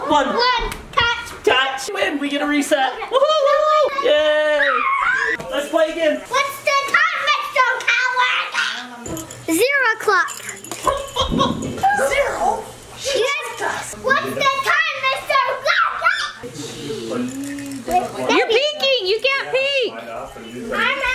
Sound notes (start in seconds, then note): 15.7 screams